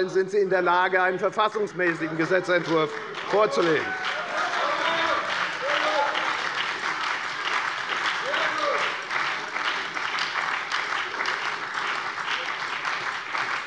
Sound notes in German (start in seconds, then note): 4.0 Lebhafter Beifall bei der FDP, der SPD und der LINKEN